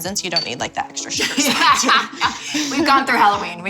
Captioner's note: laughs